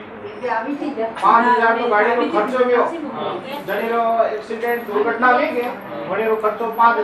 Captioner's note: foreign